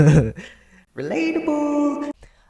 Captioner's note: echoing